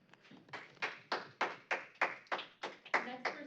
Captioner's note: applause